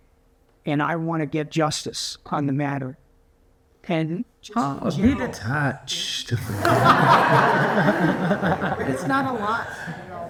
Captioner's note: laughs